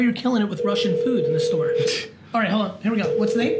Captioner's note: phone ringing